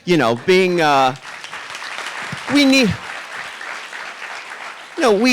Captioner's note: audience clapping